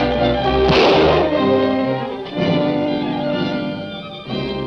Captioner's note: gun firing